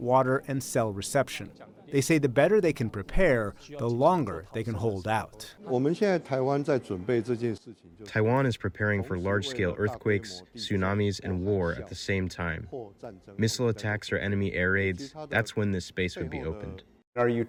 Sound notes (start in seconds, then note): 8.4 through translator